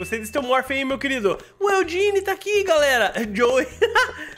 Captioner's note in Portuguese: risos